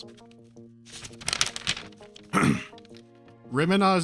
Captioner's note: shuffling of papers and clearing his throat